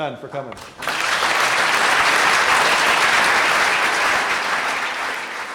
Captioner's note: applause